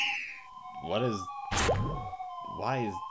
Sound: shlorp

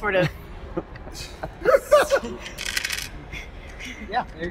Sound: laughter

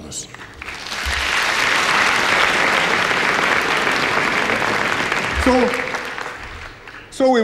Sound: applause

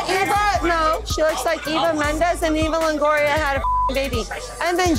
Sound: beep

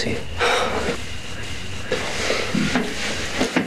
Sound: Ingrid sighs

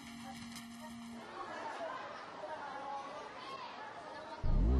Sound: students chattering

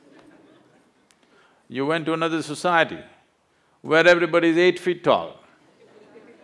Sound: laughter; laughter

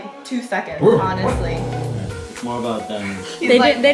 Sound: dogs barking

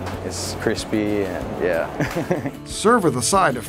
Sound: man laughs

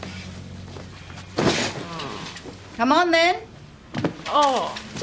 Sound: groans; groans

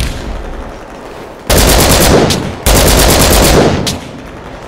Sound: explosions; LMG fire

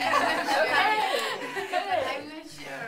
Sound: group laughs together

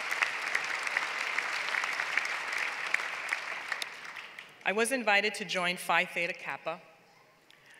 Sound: applause

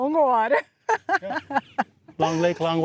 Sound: laughs

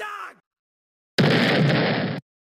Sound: explosion

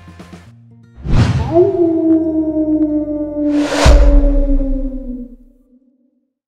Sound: howling

